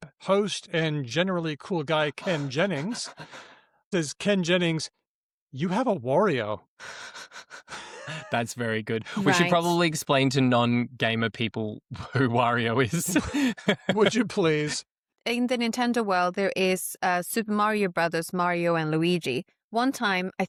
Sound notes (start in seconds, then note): 7.3 chuckles; 11.9 laughs